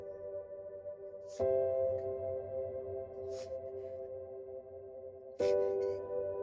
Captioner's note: Wanda sobbing